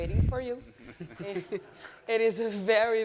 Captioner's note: all laughing